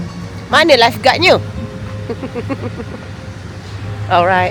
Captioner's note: laugh